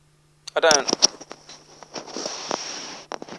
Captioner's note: mic crackles